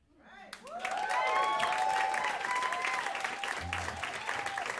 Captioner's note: crowd applauds